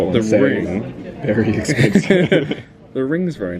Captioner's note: they laugh